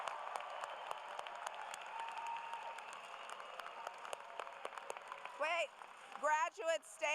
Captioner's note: applause